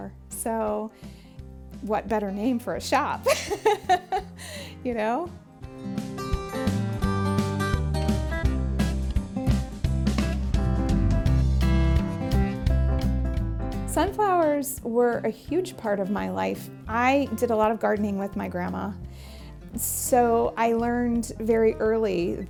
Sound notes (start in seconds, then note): 3.2 woman laughing; 6.4 upbeat instrumental music